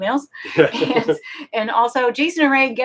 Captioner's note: both laughing